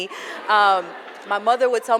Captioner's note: laughter